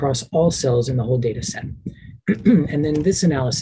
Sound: clears throat

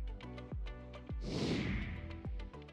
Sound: upbeat music; air whooshing

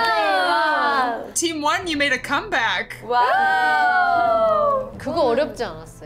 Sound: Team 1 cheers

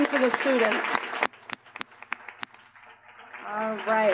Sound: applause

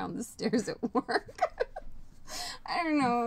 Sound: laughing

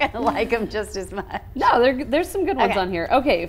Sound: laughs

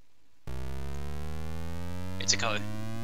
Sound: vroom

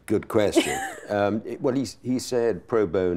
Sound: laughing

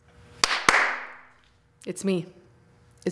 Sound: claps

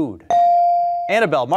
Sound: beep

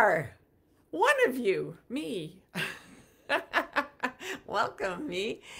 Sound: laughs

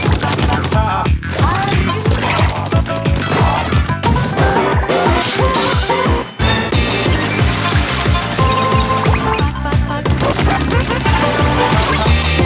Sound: more weird octo sounds

